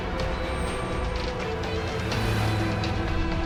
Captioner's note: engine passing